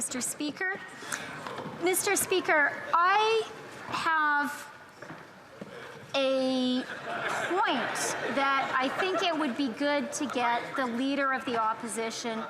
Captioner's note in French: voix de l'interprète